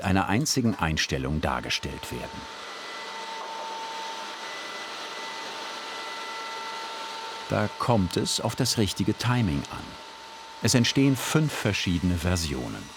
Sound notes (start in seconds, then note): 3.2 sawing noise